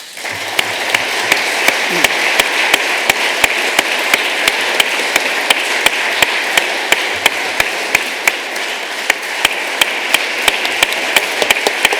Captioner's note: applause